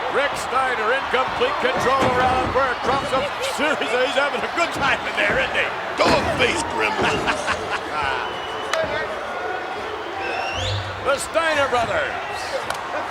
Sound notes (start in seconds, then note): 7.1 McMahon chuckles